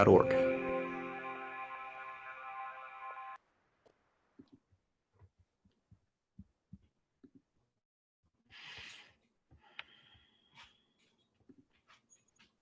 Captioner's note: silence